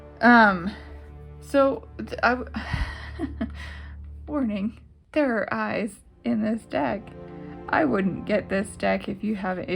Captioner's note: laugh